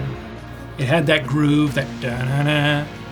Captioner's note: imitates music